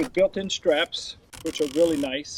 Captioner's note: strap winding